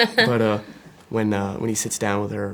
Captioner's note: Florence laughing